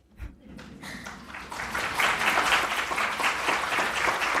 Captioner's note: applause